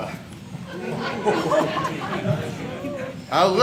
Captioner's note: audience laughs